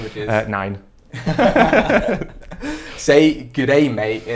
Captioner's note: laughs